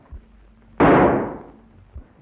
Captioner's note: gunshot